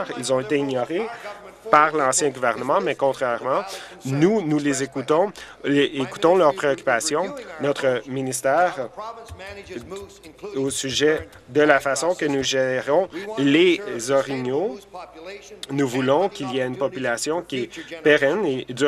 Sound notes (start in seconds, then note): none